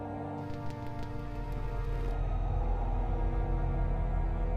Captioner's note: wind whistling; static buzzing